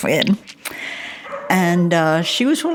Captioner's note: dogs bark in the background